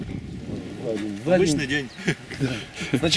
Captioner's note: se ríe